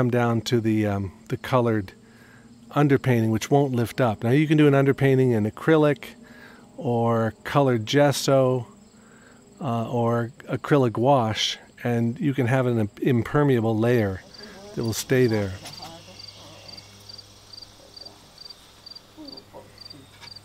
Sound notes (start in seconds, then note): 16.8 crickets chirping